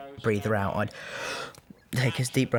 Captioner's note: radcliffe takes deep breath